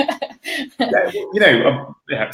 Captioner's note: laughing